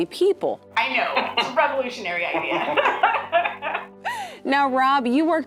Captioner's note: laughter